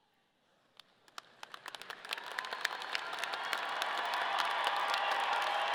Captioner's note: audience cheering